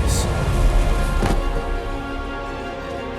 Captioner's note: magical hum stops